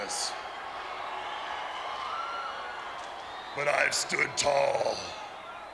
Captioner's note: applause